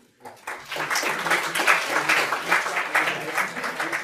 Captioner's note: audience applause